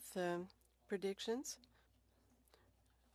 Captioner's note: speaking French